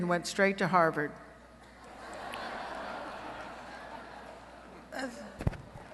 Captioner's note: laughter